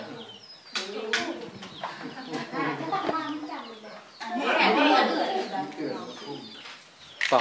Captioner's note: chattering